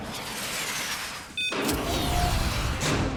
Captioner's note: beeps